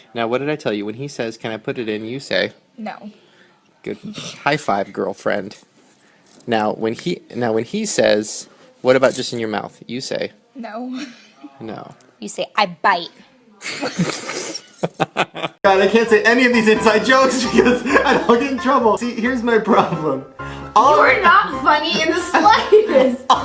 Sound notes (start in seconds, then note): 10.8 laughs; 13.6 laughter; 18.7 laughs; 23.2 laughs